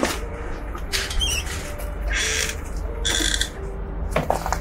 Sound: door creaking

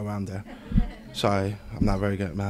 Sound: group laughs

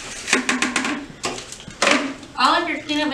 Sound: dustpan clattering

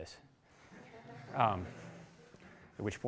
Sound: laughter

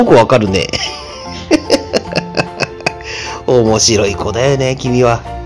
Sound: laughs

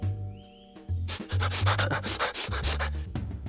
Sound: sniffing

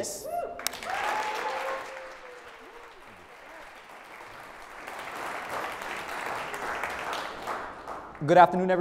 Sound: applause

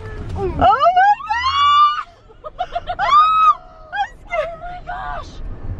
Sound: yelling

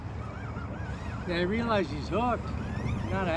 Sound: reel cranking

